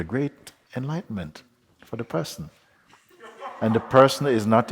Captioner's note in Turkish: Kahkaha